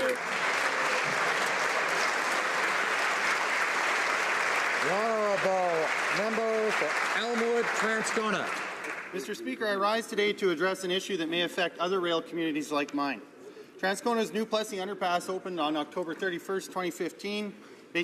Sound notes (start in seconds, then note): 2.8 applause